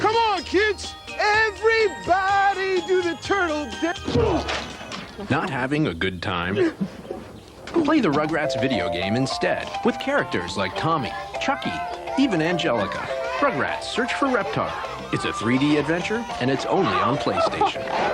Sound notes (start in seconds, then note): 3.9 groan on impact as music winds down